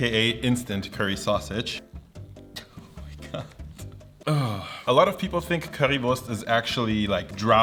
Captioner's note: laughs